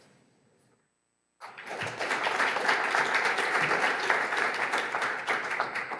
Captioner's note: audience applauds